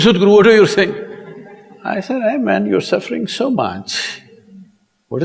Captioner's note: laughter